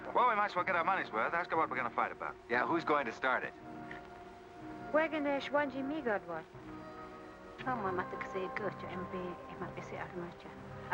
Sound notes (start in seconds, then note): 4.9 Kit speaking in Native American language; 7.6 woman speaking in Native American language